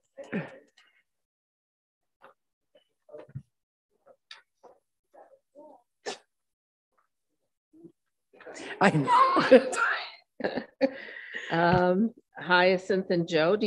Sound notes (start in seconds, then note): 8.8 group laughs